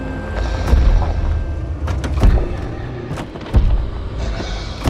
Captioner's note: zombies growling